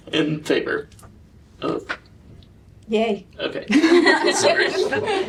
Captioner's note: laughter